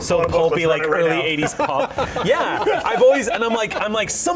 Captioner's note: laughter